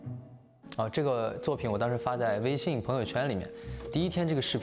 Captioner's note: speaking chinese